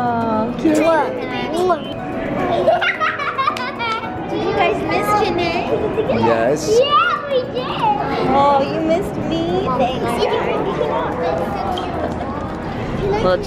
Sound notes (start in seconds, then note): 1.6 kisses; 2.4 laughing